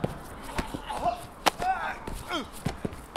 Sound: yelling; groaning

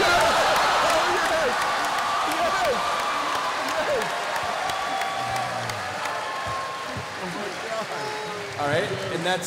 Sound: cheering

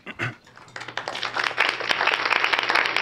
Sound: applause

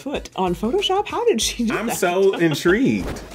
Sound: laughing

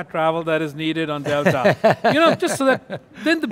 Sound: laughing

